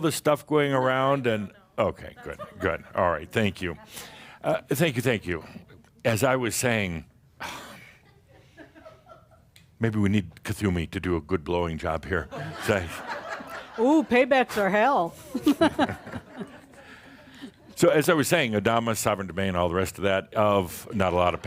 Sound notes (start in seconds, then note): 7.1 sighs, seeing one candle still burning; 12.4 more laughter; 15.2 she chuckles